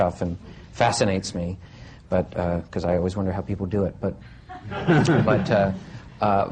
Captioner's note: laughter